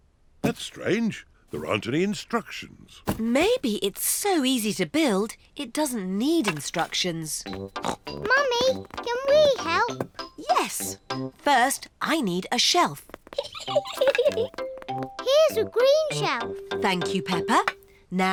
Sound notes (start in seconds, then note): 7.7 snorts; 13.3 giggles